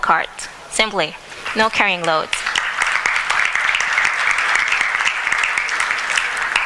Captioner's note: applause